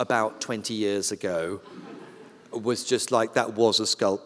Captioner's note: laughter